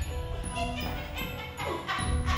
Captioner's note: laughing maniacally